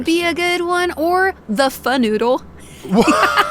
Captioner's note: laughing; laughs